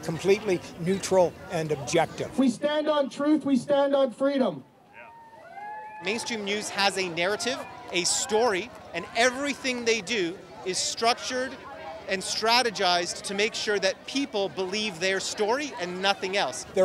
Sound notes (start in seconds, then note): 4.9 people cheering